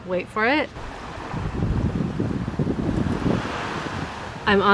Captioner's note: wind blows